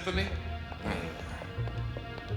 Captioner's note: both grunt